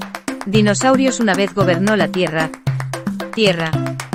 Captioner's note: foreign language